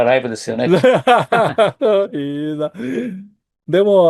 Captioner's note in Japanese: 笑い